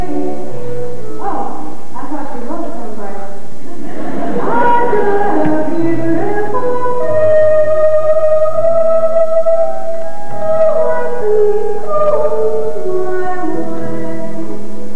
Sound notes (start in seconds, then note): 3.7 laughter